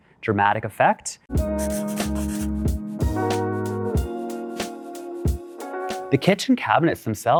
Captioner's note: upbeat music; pencil scribbling